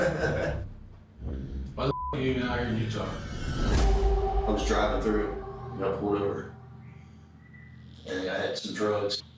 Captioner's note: laughing